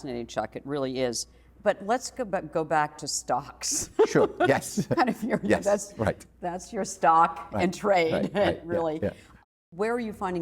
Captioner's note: laughs